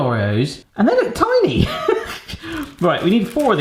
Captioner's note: laughs